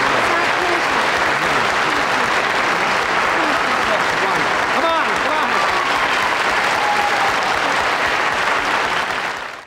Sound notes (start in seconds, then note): 6.2 audience applauds